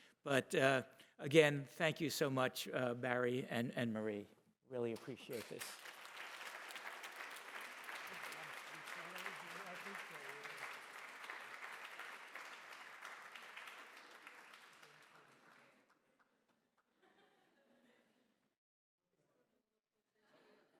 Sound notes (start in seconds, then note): 6.1 applause; 16.9 laughter